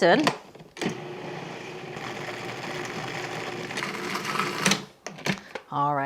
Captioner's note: food processor whirring